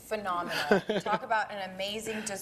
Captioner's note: laughing